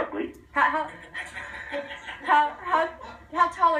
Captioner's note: laughter in the studio